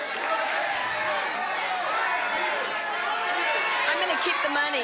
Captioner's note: crowd clamoring